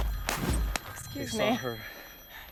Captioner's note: upbeat music; phone rings